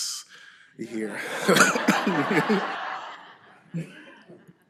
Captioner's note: laughter